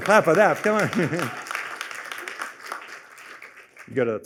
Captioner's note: applause